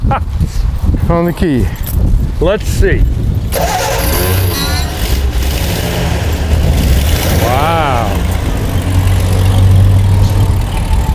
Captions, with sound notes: Found the key. - Let's see. (engine starts) Wow.